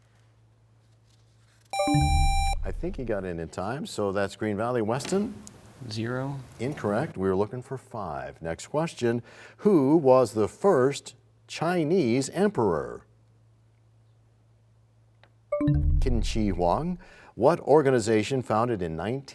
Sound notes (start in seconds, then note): 1.7 buzzer sound; 1.8 bell chimes; 16.5 bell chime, time expires